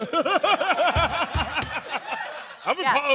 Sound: laughing

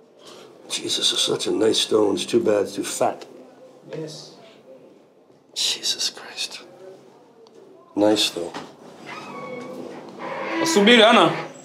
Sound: speaks Swahili

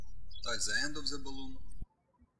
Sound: birds chirping

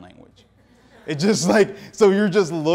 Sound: audience laughing

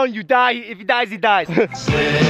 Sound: chuckle

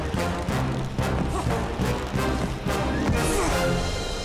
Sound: grunting

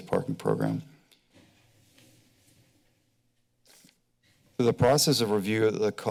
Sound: silence

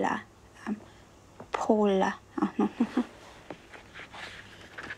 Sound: chuckles softly

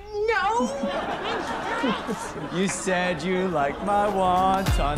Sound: sing songy

